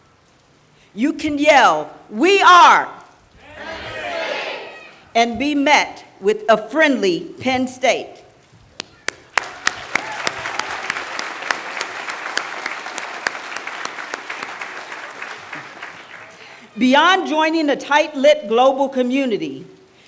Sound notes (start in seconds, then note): 9.0 applause